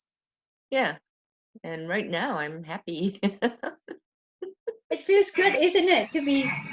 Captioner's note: laughs